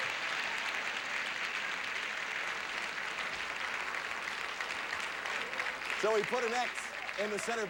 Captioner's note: audience applauding